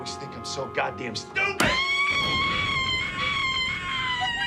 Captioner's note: cris hystériques